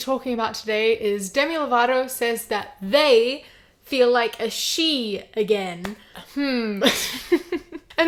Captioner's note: hums, then laughs